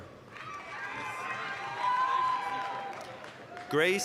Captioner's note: applause, cheering